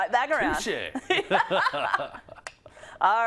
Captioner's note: laugh